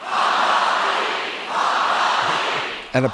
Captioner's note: chanting